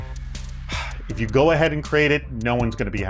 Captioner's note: sighs